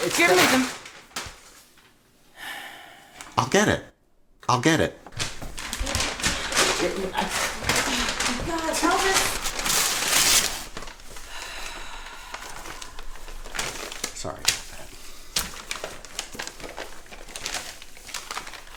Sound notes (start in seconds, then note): 6.8 Elvis mutters; 9.7 paper ripping